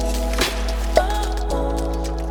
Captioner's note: pop